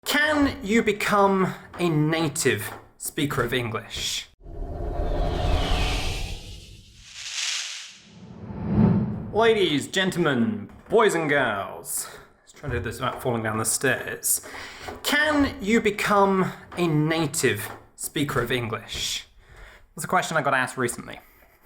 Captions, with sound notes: - Can you become a native speaker of English? (graphic whooshes) (electricity crackles) Ladies, gentlemen, boys and girls. Let's try to do this without falling down the stairs. Can you become a native speaker of English? That's a question I got asked recently.